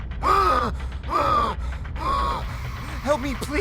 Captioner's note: gasping for air